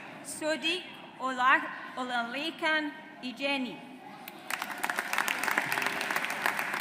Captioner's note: audience applauds